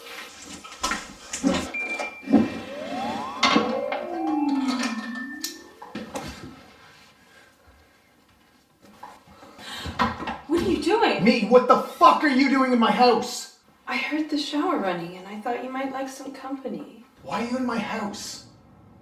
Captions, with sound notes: [High pitch sound] What are you doing? - Me? What the fuck are you doing in my house? I heard the shower running and I thought you might like some company. - Why are you in my house?